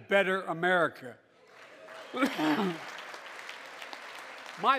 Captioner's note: applause